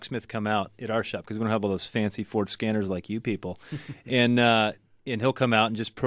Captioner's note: laughs